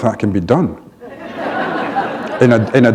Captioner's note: laughter